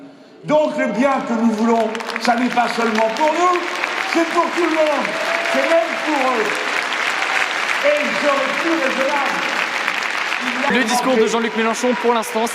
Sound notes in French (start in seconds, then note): 2.9 Applaudissements; 9.4 Applaudissements